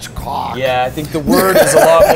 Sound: laughs

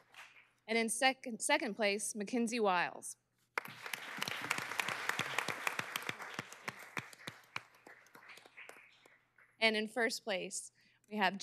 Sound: applause

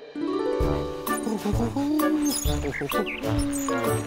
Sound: Puss hums

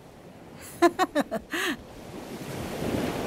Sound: lady chuckling

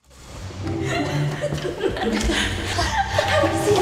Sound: girls laughing

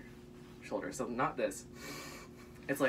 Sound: breathing

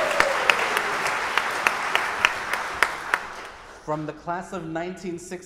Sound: audience applauding

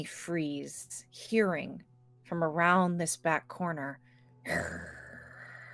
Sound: growls

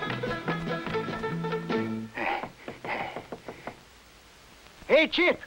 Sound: panting

